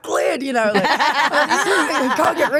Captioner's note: group laughs